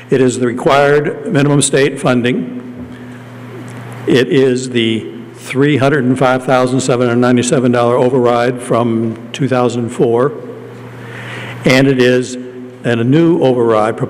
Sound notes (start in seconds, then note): none